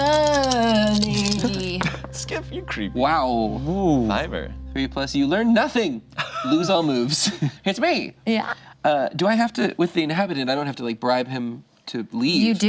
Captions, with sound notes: Study! Skiff, you're creepy. Wow, fiver. Ooh. Three plus, you learn nothing! (group laughs) Lose all moves. It's me! Yeah. Do I have to, with the inhabitant, I don't have to bribe him to leave?